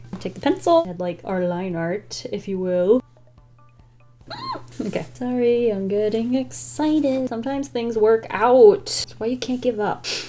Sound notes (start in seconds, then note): 4.3 excited squeal